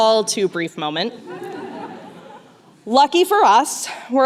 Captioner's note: laughter